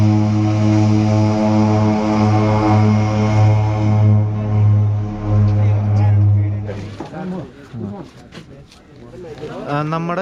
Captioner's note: propeller sound